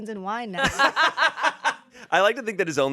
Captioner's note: everyone laughs